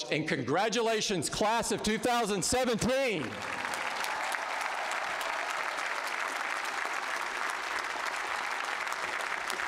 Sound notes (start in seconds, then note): 2.6 applause